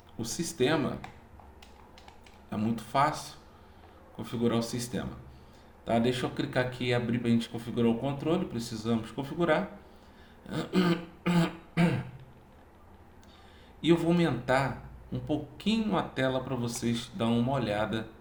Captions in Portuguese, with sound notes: o sistema. É muito fácil configurar o sistema, tá? Deixa eu clicar aqui e abrir pra gente configurar o controle. Precisamos configurar. [limpando a garganta] E eu vou aumentar um pouquinho a tela para vocês dar uma olhada